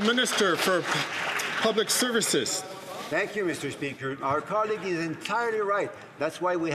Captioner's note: some Applause